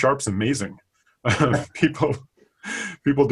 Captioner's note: laughing